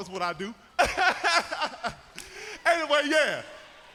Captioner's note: Percy laughing